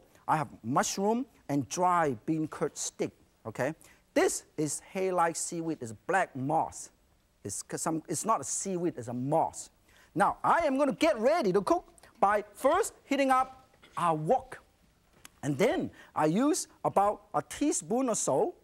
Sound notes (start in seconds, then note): none